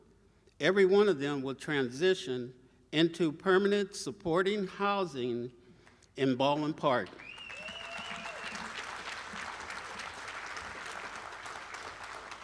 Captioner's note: applause and cheering